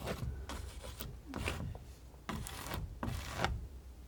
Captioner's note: scratching